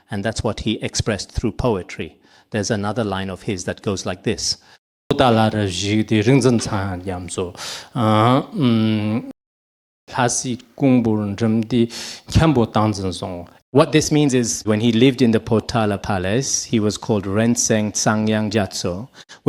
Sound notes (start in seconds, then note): 5.1 recites the poem in Tibetan